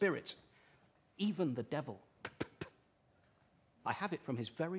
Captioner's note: spits